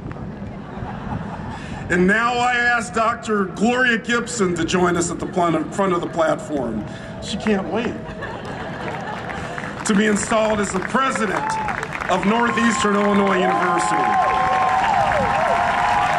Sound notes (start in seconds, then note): 0.5 audience laughs; 7.8 audience laughs; 9.9 applause; 11.6 cheering; 12.5 huge Cheering and Applause